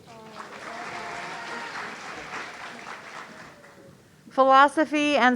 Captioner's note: audience cheering